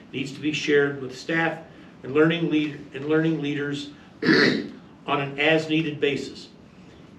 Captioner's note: clears throat